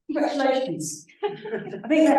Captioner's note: laughter